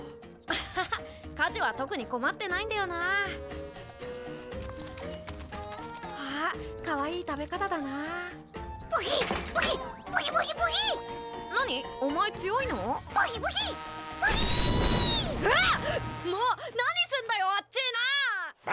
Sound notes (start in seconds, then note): 4.1 squirrel munching down